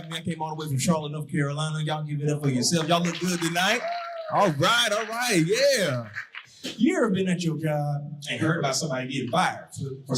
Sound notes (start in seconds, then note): 2.4 audience applauding